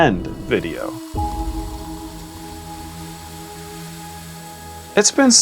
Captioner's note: sand flowing